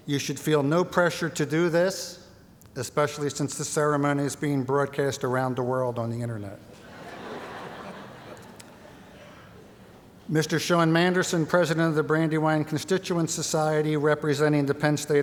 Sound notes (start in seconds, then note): 6.7 laughter